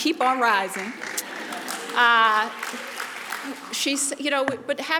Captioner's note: audience applauds